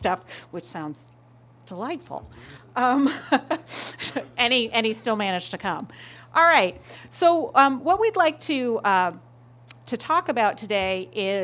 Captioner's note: laughter